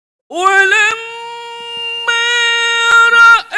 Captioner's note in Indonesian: berteriak